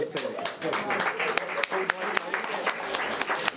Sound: clapping

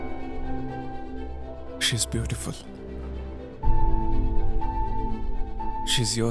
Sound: none

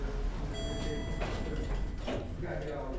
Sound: elevator beeping

